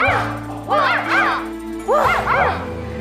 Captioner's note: woof, woof